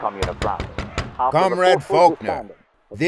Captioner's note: knock on door; muffled radio trails off